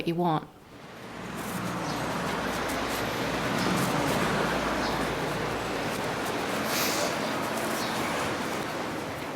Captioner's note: traffic noise